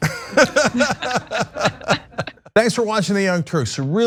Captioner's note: laugh